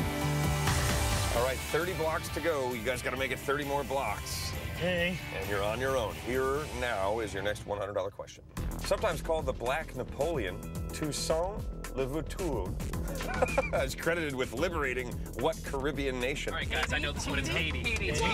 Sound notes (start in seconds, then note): 13.1 laughs